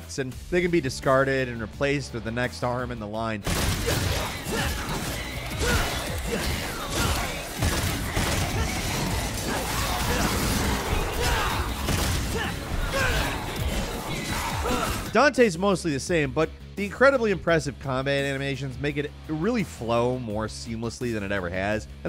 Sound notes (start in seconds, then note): 3.4 gun fighting; 11.8 gun fighting continues